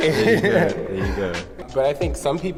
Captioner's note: both laughing